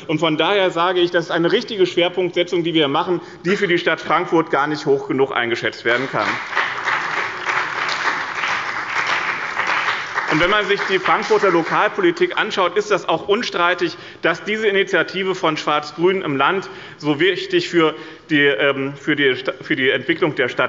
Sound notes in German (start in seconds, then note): 5.9 Beifall bei dem BÜNDNIS 90/DIE GRÜNEN und der CDU